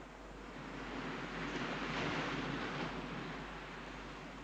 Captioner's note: waves crashing